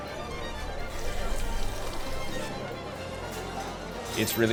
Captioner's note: stock trickling